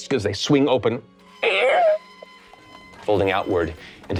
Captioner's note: imitates gates squeaking